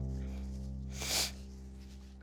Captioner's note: sniffling